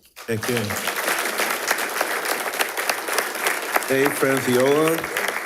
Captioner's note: attendees applauding